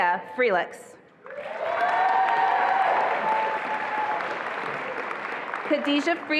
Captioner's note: attendees applauding and cheering